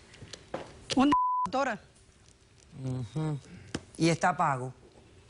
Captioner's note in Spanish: Bip